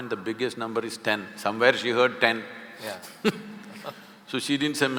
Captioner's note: both laugh